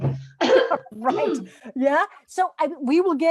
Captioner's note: clears throat